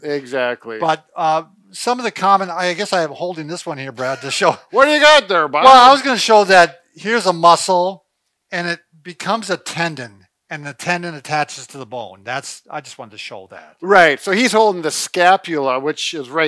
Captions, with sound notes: - Exactly. - But some of the common, I guess I'm holding this one here, Brad. - (laughs) What ya got there, Bob? - Well, I was gonna show that here's a muscle and it becomes a tendon, and the tendon attaches to the bone. I just wanted to show that. - Right, so he's holding the scapula which is right here.